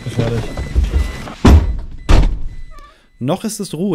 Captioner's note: car doors are closed